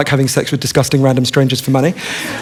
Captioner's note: laughter